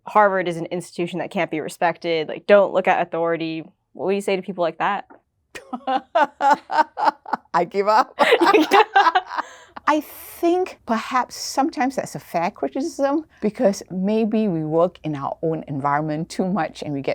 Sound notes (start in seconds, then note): 5.6 laughing